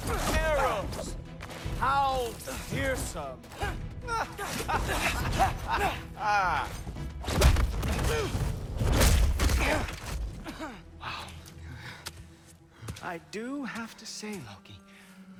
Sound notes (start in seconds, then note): 4.0 laughs